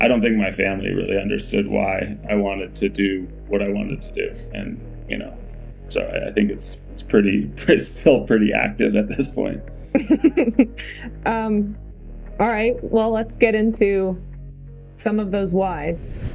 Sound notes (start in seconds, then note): 9.9 Mikaela laughing; 10.1 ambient music